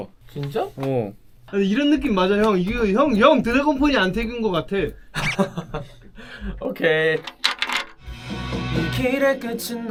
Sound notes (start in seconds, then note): 5.1 laughing quietly at other members' compliments